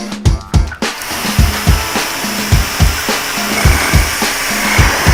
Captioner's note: drilling noises